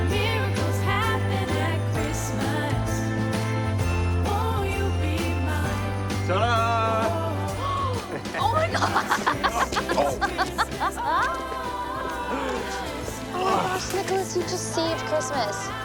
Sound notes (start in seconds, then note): 7.0 Cassie gasps; 7.8 Cassie laughs; 12.2 Nicolas grunts